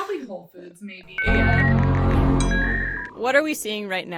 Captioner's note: overlapping technological sounds